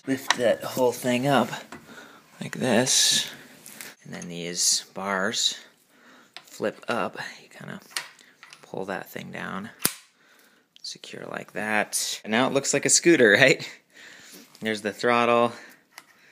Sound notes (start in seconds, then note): 9.8 snapping sound